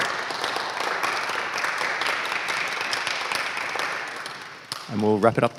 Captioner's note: applause